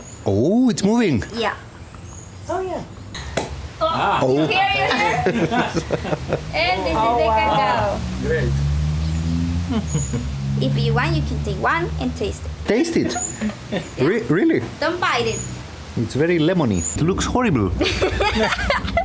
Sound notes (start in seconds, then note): 3.8 laughs